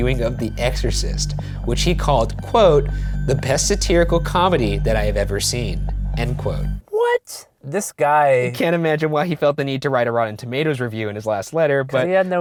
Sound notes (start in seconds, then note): 6.4 voiceover; 12.2 voiceover